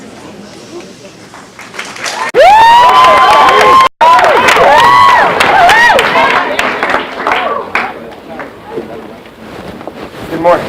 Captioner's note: applause